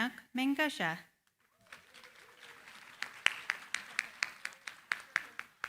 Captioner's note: applause